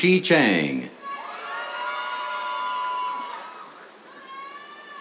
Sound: cheers

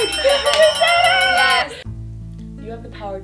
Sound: bell dings

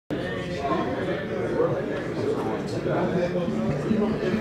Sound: crowd noise

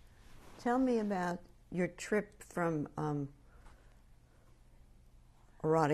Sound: pauses for 3 seconds

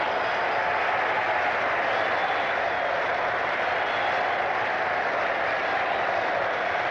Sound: crowd applauding and cheering continues

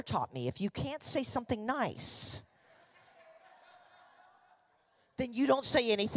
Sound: congregation laughing

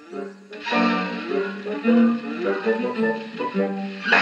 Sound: leaves Rustling

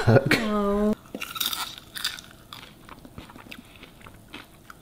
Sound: popcorn crunching

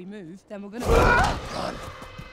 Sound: screaming

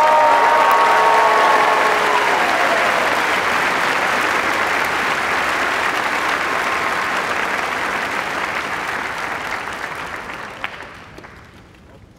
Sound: cheers and applause

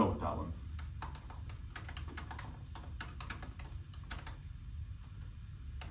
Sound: laud typing

